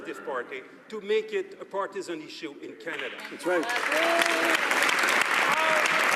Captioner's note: some Applause